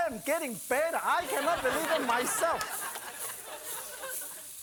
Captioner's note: audience laughing